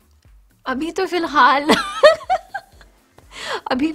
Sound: laughs

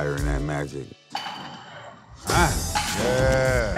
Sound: bat striking ball

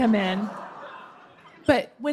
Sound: laughter

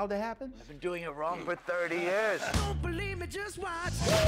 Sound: man laughs

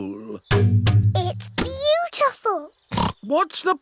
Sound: oinks

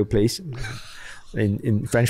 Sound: laughs

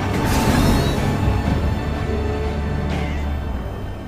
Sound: speeder zooming

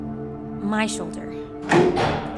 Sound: elevator moving

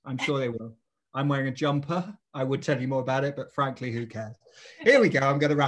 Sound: laugh

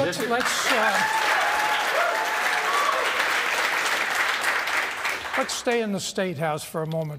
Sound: applause

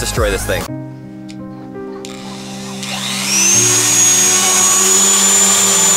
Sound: sad music; buzz saw starts

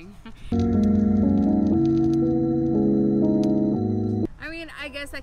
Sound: speaker crackling

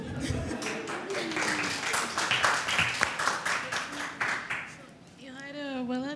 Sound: applause

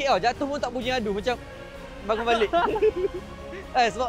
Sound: laugh

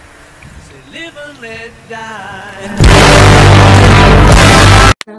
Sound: vroom Vroom boi

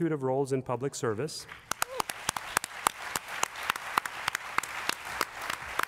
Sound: applause

